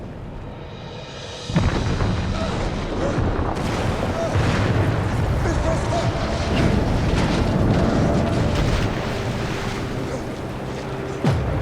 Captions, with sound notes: (Sinclair gasping) - Miss Prescott? (ship clanging)